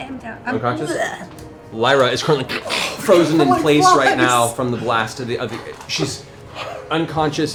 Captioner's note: crackles